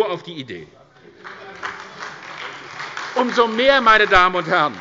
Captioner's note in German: Beifall bei der SPD